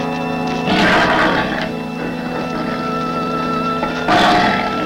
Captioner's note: Brutus growling